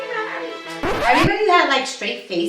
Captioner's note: record scratches